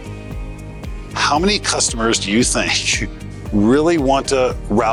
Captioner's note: laughs